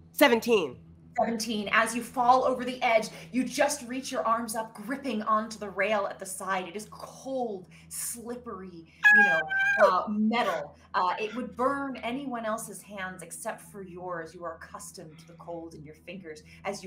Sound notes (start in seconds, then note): 9.0 screaming